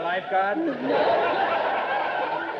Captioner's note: audience laughter